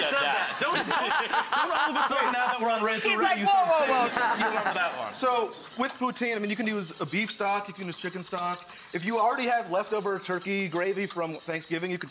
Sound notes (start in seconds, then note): 0.1 laughing; 3.8 laughter